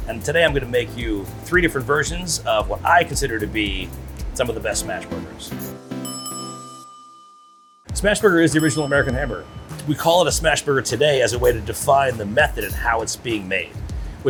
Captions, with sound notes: And today, I'm gonna make you three different versions of what I consider to be some of the best smash burgers. [bell ringing] Smash burger is the original American hamburger. We call it a smash burger today as a way to define the method and how it's being made,